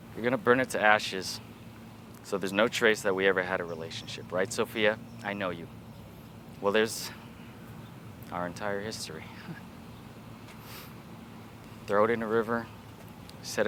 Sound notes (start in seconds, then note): 9.3 chuckles